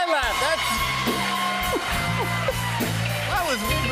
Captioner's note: cheers and applause